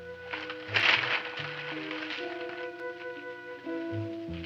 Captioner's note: paper rustling